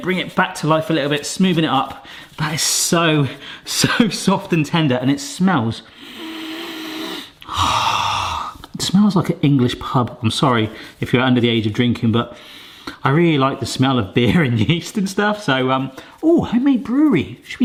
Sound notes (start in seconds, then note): 5.9 deep inhale